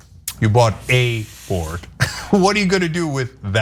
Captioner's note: laugh